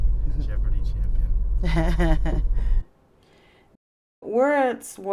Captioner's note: laughs